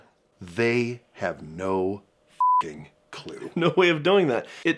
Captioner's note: beeping